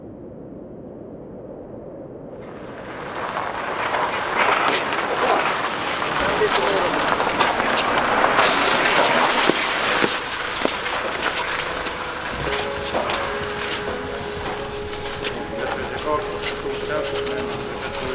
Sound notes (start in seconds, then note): 0.2 air whooshes; 6.4 machine whirs; 13.7 bright music